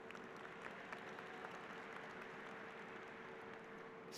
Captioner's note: applause